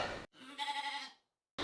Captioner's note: rogue sheep bleat